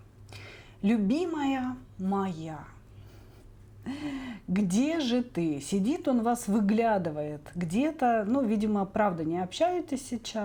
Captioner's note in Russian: тяжело вздыхает